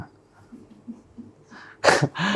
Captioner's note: laughs